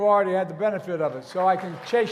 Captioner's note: applause